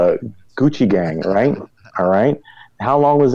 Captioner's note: laughs